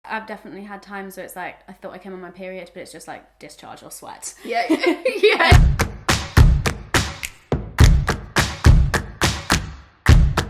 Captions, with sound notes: - I've definitely had times where it's like I thought I came on my period but it's just like discharge or sweat. (laughter) (rhythmic, snapping music)